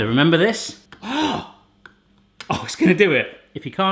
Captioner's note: gasping